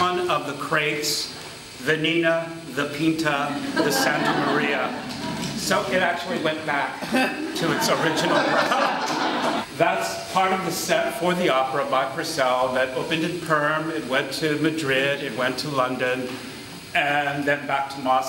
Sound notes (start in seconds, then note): 7.0 laughter